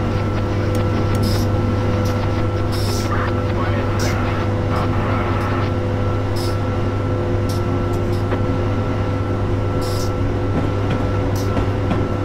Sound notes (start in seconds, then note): 2.0 radio sounds